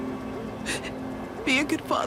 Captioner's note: crying